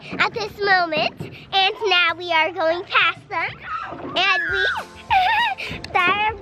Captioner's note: giggles